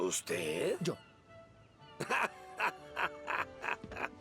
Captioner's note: laughing